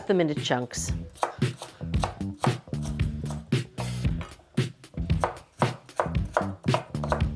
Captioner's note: upbeat music; knife tapping